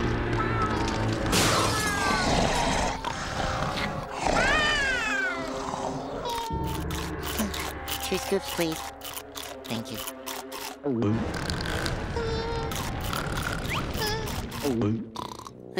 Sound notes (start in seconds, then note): 2.4 snoring; 4.1 meowing; 6.4 snoring; 10.2 gulping; 11.2 snoring; 14.5 gulping